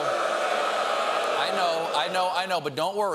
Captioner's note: audience reacts